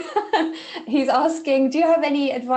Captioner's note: laughing